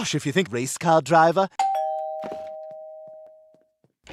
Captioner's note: doorbell rings